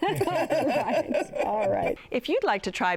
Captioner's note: laughter